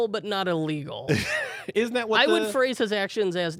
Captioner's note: laughs